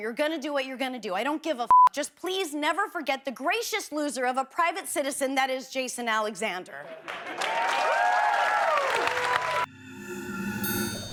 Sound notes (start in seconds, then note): 6.9 applause